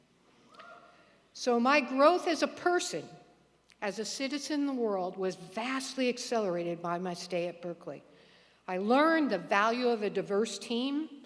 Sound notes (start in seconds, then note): none